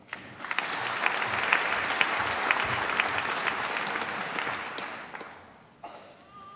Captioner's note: applause